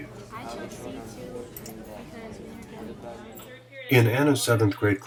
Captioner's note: chatter